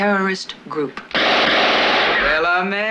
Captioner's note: guns firing